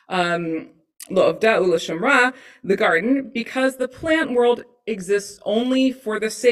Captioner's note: non-english speech